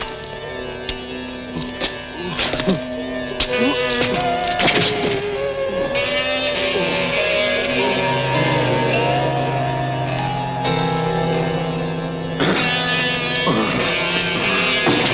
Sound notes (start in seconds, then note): 2.5 groaning; 12.6 growling